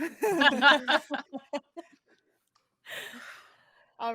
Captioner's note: both laughing